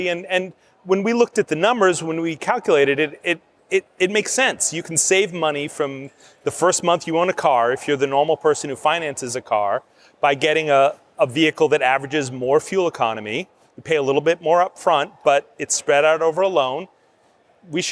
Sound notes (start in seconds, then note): none